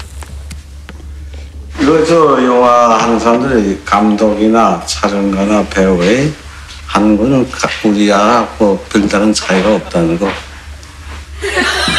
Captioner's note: foreign Language; laughter